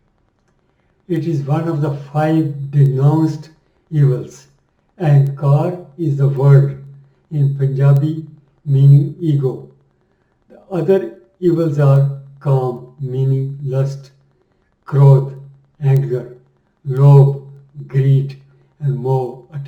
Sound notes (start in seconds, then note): 15.1 anger